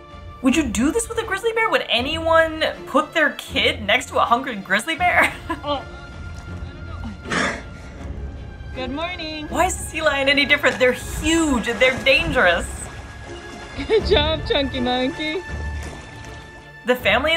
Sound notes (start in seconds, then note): 5.1 laughs; 7.2 sea lion noise